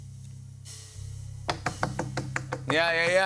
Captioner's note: suspenseful music plays; tapping